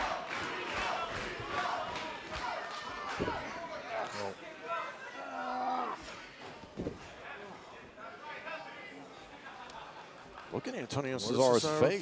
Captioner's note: crowd cheering